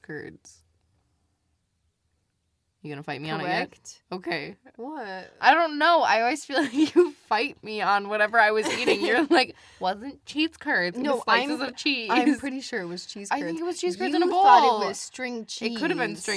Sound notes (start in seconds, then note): 8.6 laughs